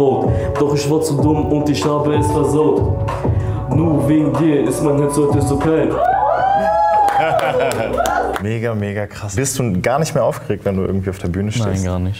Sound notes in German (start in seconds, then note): 5.9 Jubel, Applaus